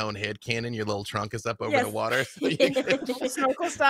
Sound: laughs

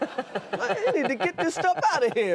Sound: Conan and audience laughing

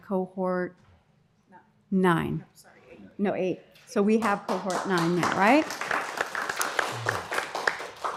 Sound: applause

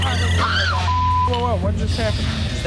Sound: woman screams

